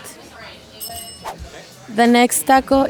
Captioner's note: bell dings